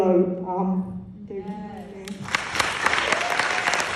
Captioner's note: applause